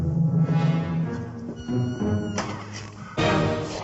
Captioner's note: door creaking